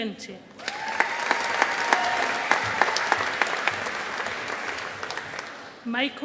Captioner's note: audience applauding